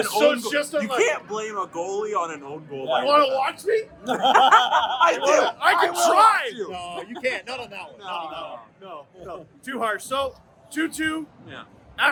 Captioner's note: laughter